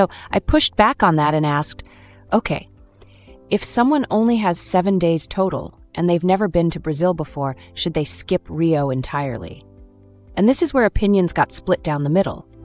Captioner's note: thoughtful